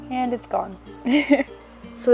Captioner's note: ahaha